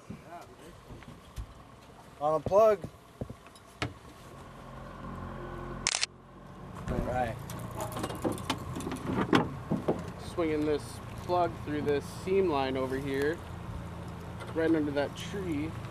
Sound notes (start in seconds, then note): 5.8 camera shutter snapping